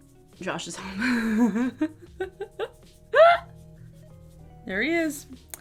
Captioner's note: laughs